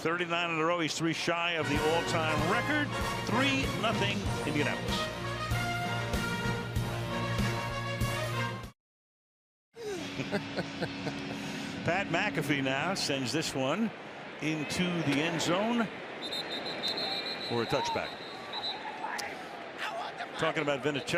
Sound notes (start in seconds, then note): 5.4 theme music playing; 9.8 laughs